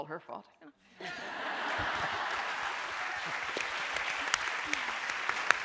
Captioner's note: audience laughing and applauding